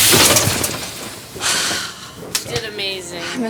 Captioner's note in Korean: 한숨